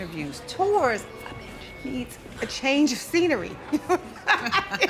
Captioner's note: whispering; laughs